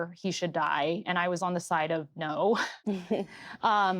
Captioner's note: laughs softly